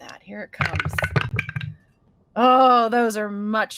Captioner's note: dice rolling